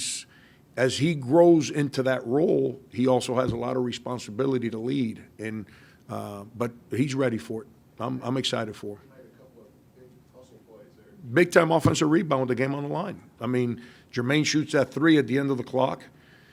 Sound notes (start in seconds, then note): 9.1 speaking off mic